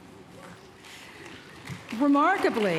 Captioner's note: applause